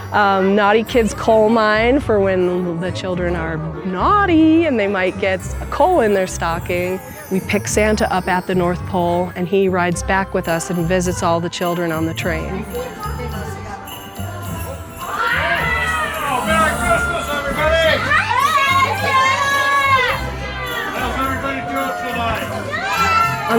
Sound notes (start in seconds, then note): 14.8 children shouting in excitement